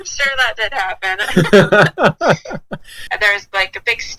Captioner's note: both laugh